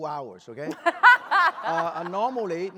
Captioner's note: laughter